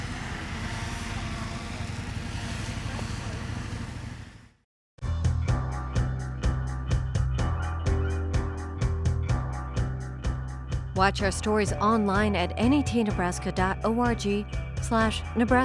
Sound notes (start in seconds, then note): 4.6 drone flying; 10.1 upbeat music